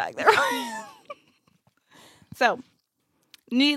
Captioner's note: laughs